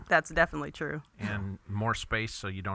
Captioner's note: laughs